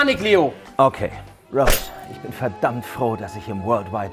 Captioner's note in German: verstellt